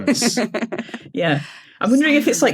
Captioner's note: giggles